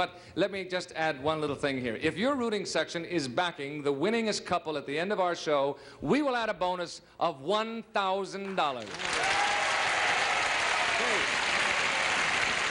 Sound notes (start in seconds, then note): 7.2 cheers and applause